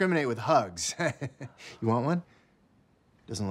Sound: chuckles nervously

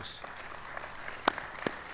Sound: applause

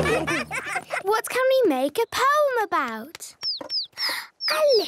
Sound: bird tweeting

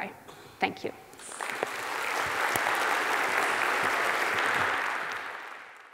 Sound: audience applauding

